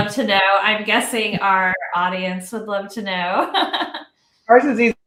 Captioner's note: laughs